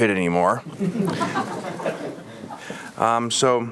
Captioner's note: audience laughs